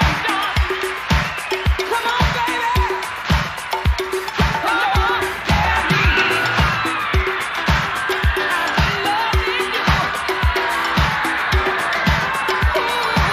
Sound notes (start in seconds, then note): 6.7 people cheering